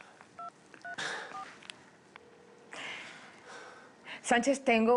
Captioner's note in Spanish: Sonido al marcar